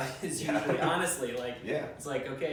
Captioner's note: laughs